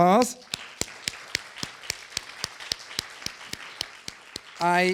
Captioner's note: audience applauding